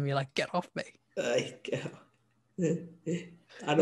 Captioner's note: laughs